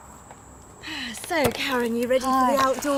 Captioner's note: sighs